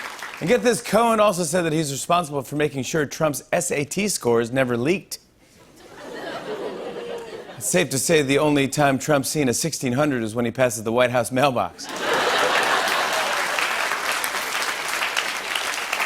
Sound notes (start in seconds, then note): 5.8 laughter; 11.8 laughter, applause